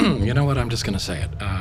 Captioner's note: clears throat